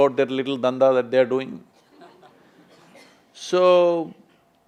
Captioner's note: few laugh